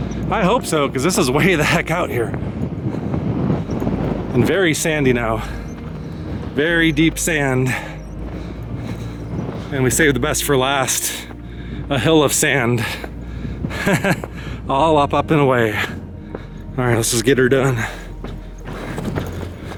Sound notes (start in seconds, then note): 13.7 chuckles